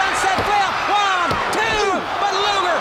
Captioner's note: hands thudding